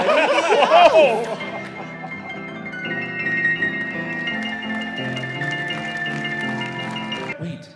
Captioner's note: audience laughing; audience applauding; bright piano music